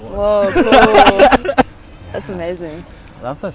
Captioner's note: laughing